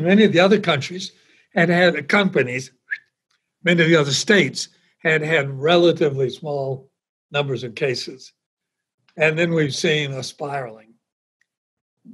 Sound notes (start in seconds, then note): 2.8 whistles